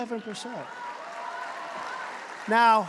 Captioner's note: applause